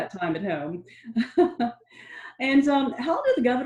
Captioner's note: laughing